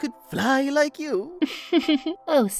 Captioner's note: candle laughs